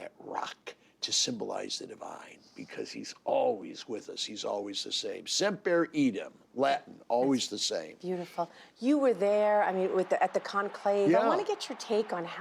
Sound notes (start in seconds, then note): 10.5 speaking in native tongue